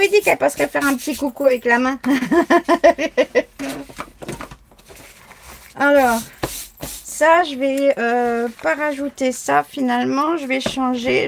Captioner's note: laughs